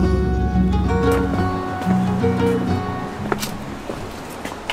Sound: footsteps shuffling

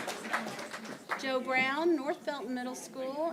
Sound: applause

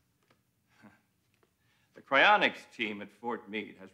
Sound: chuckles

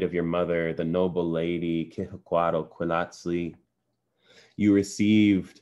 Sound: non-english

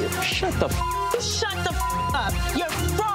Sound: beeps

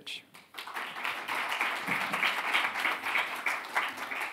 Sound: crowd clapping

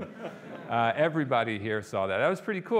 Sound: audience laughing

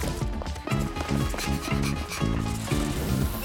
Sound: panting

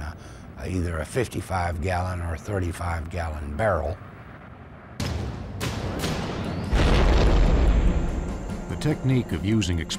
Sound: exploding

